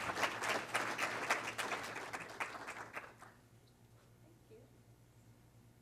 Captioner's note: clapping